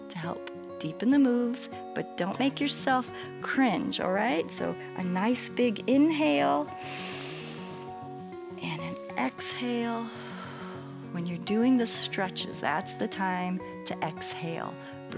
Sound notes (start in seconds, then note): 6.7 inhales; 9.9 exhales